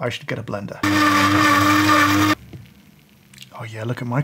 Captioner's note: blender whirs